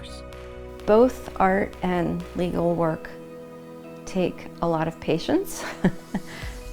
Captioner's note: giggling